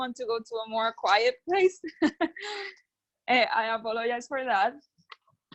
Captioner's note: laughs